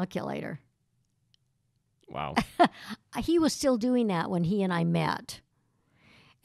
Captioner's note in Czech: Chichotá se